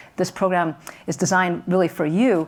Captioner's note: none